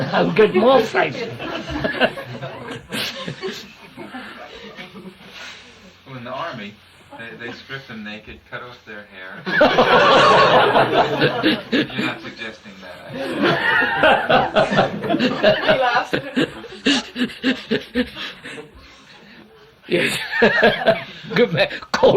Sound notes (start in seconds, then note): 3.2 laughter; 9.5 laughs; 17.5 laughter; 19.1 laughs